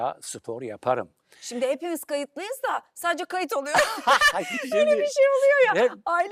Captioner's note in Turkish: kahkaha